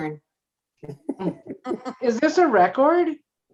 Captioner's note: all laughing